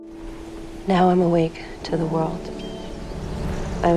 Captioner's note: voiceover